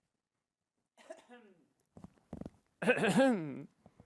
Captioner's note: coughs